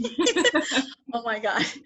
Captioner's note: both laughs